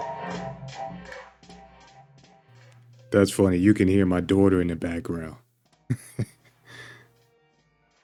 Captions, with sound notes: That's funny. You can hear my daughter in the background. (Chuckles)